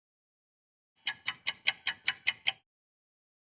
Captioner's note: ticking clock